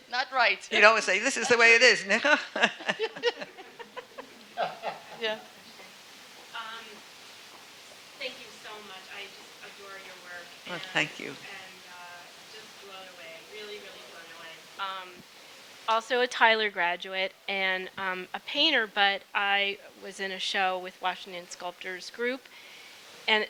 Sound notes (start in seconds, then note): 0.7 laughing; 2.1 speaking German; 3.8 people laughing